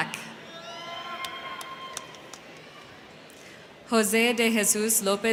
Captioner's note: crowd cheering; crowd clapping